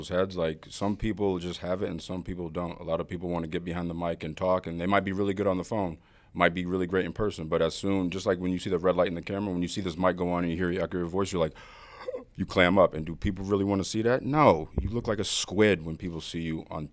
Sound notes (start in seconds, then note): 11.5 gasp